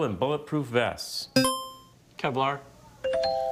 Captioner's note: buzzer chimes; bell chimes